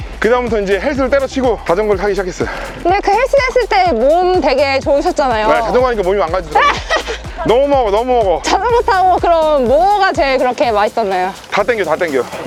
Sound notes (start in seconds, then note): 6.5 laughter